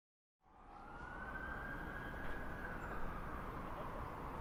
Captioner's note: ambulance siren wails